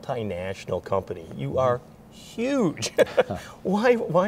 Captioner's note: laughs